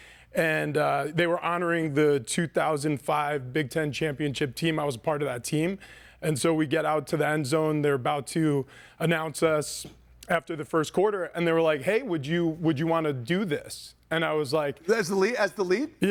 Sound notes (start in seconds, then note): none